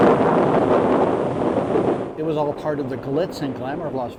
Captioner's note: bomb exploding